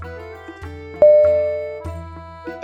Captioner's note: ding!!!